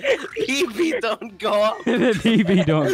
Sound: laughter; chuckling

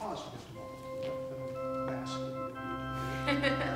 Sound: minister mumbling; Pamela laughing

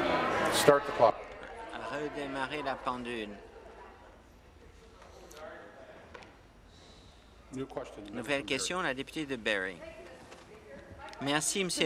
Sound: conversation din

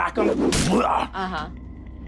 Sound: grunt; smack

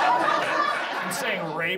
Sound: audience laughs

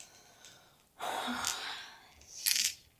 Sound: sigh

